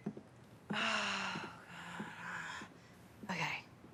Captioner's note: Robin sighs